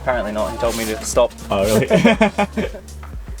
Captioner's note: laughs